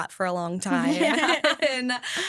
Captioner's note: hosts laugh